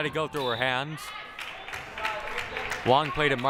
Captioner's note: crowd applauding